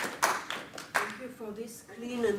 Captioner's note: applause